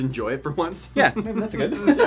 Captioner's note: laughing